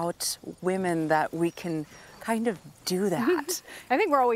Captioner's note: chuckles